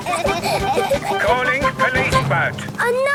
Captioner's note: children giggling; voice over radio